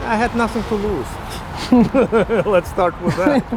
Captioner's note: he laughs